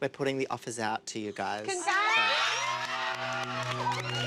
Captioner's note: all cheering